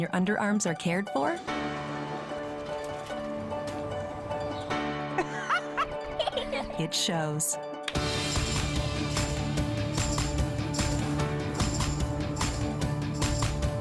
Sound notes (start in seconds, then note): 5.1 laughing